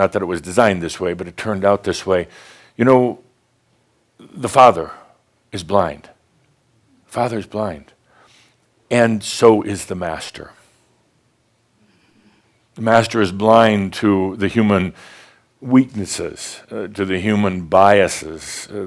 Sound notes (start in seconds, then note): none